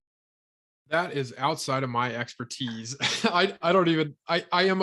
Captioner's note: laughs